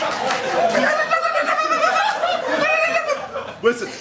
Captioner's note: laughter; stuttering shrieks of protest